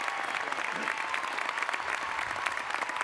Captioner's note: applause